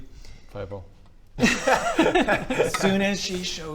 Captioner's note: reckless laughter